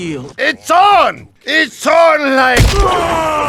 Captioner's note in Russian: звуки злого пьяного Подрывника